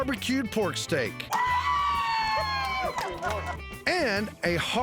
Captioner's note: cheering